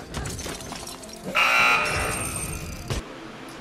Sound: error buzzer

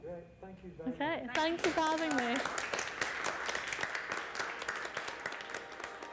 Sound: audience clapping; calm music

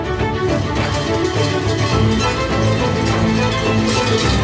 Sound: bells jangling

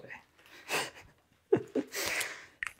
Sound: laughs

